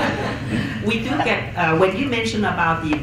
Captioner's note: chuckles